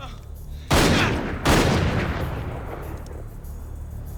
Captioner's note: gunshots banging